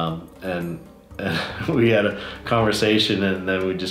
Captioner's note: laughs